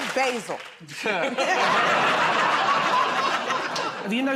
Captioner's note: laughter